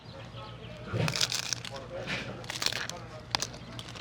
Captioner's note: crunching